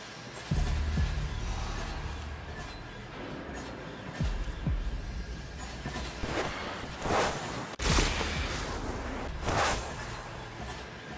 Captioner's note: whooshing